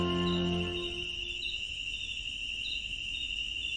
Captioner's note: birds chirping